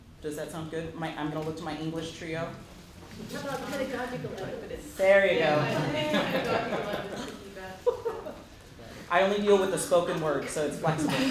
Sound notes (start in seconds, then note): 8.3 laughter & Inaudible Remarks